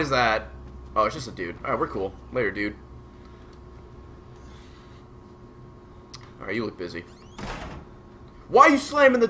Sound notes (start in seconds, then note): 7.4 slam